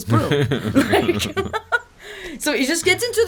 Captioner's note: laughter